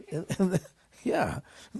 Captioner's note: laughter